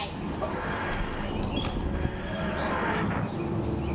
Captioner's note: TARDIS materializing in the distance